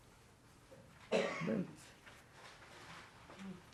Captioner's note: coughing